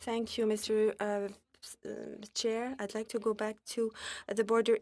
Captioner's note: speaking french